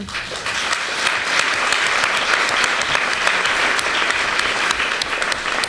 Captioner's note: applause